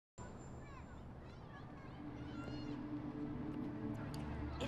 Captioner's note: children shouting indistinctly